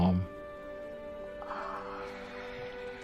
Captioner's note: sighs